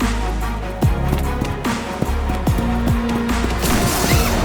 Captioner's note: bright music; feet thumping; zip hissing; bright music